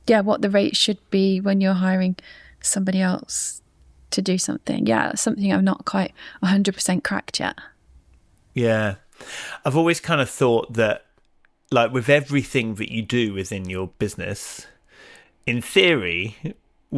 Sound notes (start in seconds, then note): none